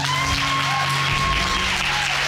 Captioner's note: audience whooping